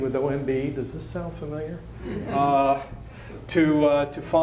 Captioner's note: laughter